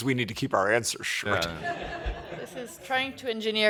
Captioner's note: laughter